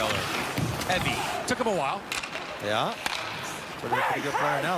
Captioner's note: sports commentary